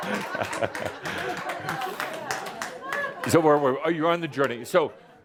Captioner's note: lots of laughter